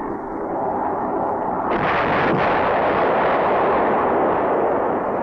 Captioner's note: rocket exploding